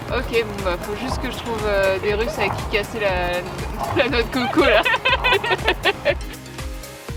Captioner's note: laughs